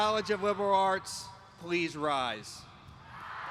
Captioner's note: applause